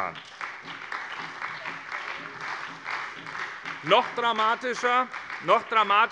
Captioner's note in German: Beifall bei der SPD